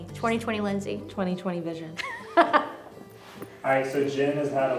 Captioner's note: laughs